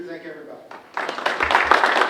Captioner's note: audience and speakers clapping